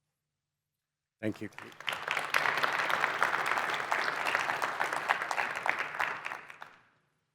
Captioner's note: applause